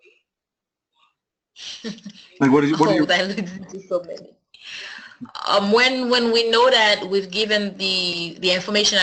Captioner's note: laugh